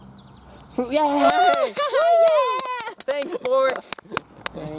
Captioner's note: cheering